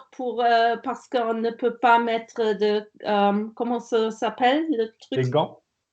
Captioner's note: laughing